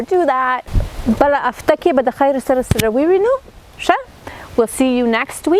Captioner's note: speaking in foreign language